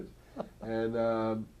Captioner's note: laughter